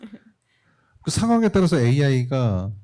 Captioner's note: speaking korean